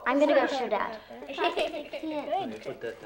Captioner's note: giggling